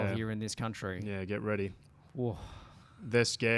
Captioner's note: sighs